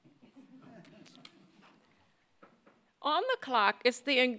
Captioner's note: audience laughing